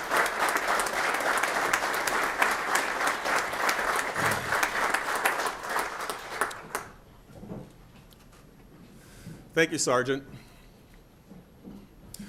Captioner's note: applause